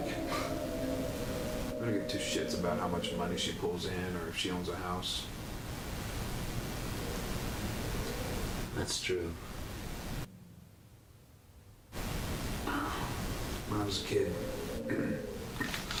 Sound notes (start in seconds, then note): 14.8 chokes